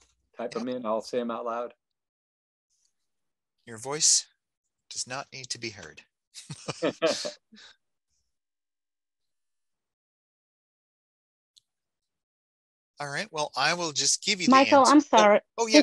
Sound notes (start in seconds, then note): 6.4 laughing